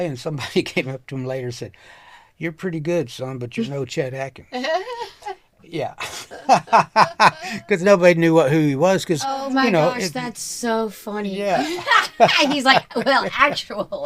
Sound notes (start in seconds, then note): 6.0 laughing; 11.6 laughing